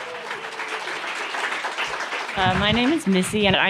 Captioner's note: applause